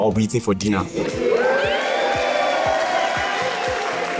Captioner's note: crowd cheering